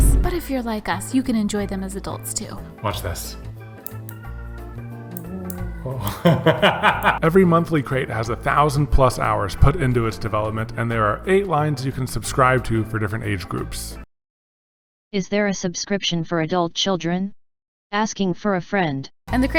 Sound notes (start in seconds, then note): 3.8 button clicking; 5.8 laughing